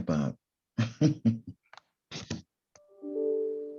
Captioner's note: chuckles